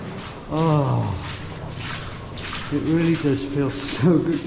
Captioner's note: water splashing